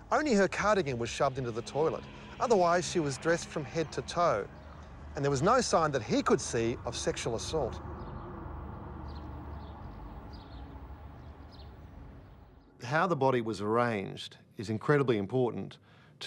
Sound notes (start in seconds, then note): 9.2 birds chirping